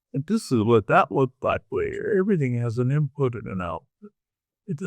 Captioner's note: none